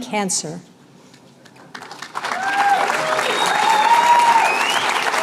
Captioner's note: cheers and applause